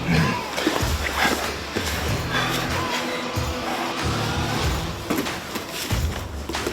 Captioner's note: grunts; breathes heavily